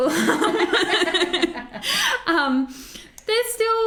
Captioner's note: both laugh